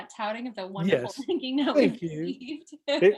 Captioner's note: chuckling